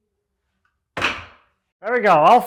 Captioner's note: wood clacking